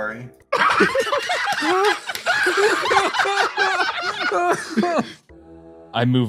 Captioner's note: laughs